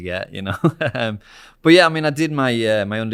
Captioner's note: laughs